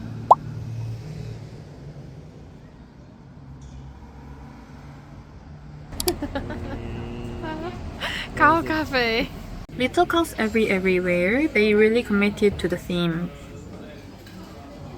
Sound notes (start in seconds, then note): 6.0 음메 소리 내는 중